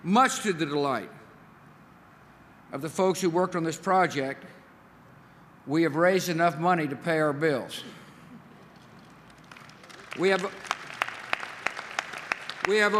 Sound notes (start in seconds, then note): 8.7 applause